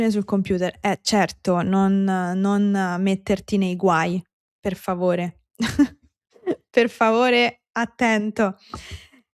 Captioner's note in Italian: risate